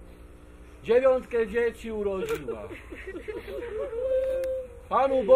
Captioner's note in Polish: płacz kobiet